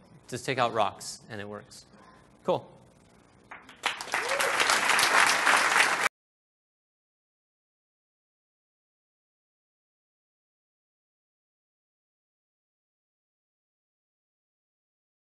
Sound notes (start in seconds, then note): 3.5 applause